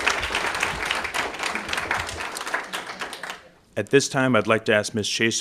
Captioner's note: applause